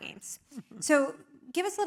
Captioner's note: laugh